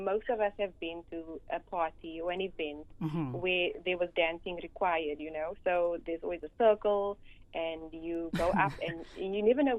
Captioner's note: ha ha